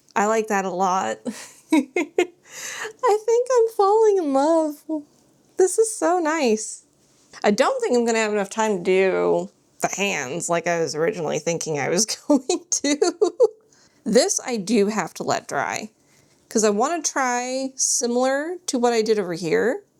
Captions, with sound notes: I like that a lot. [giggles] I think I'm falling in love. This is so nice. I don't think I'm going to have enough time to do the hands like I was originally thinking I was going to. This I do have to let dry. Because I want to try similar to what I did over here.